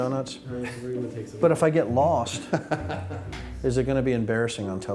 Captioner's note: chuckling